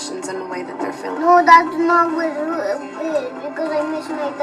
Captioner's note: kids chattering